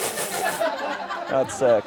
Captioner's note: everyone laughs